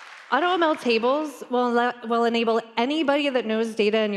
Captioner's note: applause